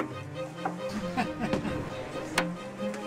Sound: chuckles

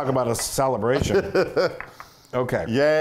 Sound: laugh

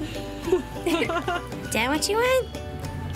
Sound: girls chuckle

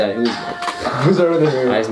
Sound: mumbles

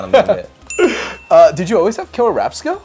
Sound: laughing; bell chimes

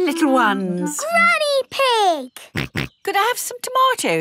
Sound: snorts

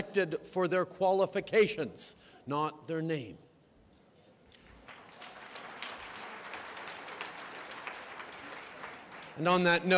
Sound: applause

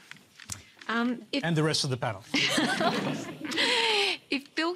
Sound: laughter

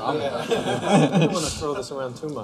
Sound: laughter

